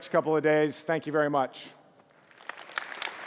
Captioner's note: applause